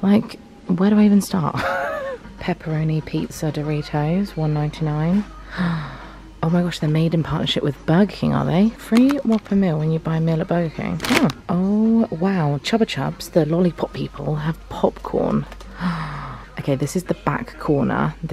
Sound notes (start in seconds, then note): 1.6 laughs; 5.5 gasps; 15.7 gasps